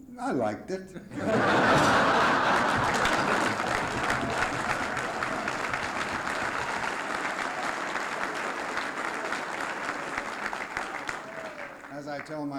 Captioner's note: laughter, applause